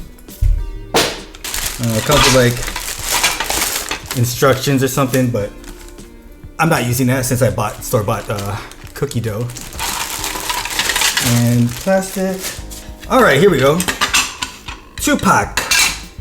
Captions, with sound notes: (glass shattering. Did it shatter?) It comes with like... Instructions or something, but... I'm not using that since I bought, store-bought cookie dough. and plastic. Alright, here we go. 2pac